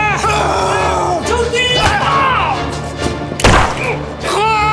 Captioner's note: Siegmund yelling; soldier yelling German; gunshot popping; Siegmund crying